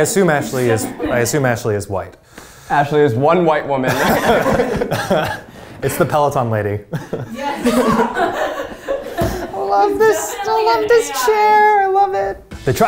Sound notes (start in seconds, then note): 3.8 laughing